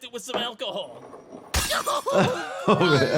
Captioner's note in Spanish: vidrio roto; cliente gritando